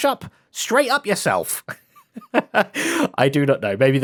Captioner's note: laughs